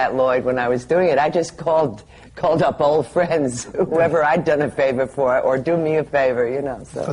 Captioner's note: laughs